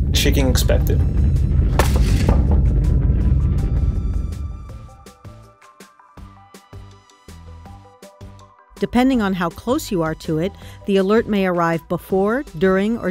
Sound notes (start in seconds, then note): 0.0 earth rumbling; 1.8 plates smashing